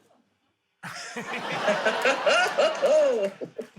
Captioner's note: laughter